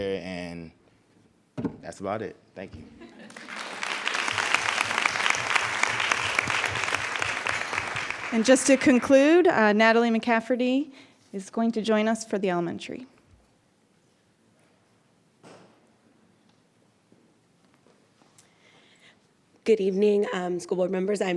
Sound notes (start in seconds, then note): 3.1 audience applauds